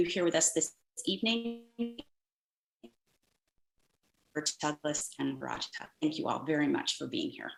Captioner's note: distorted audio